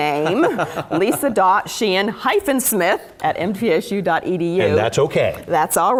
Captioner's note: laugh